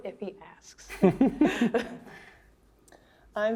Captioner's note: chuckling